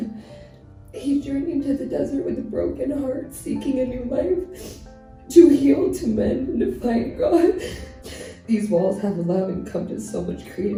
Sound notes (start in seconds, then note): 7.4 sobbing